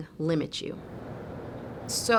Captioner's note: winds howling